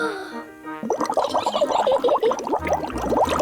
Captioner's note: takes big breath; giggles